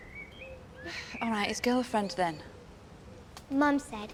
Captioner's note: sighing